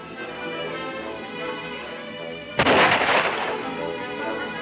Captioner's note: loud gunshot